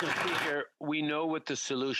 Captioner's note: applause